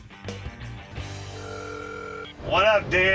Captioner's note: phone rings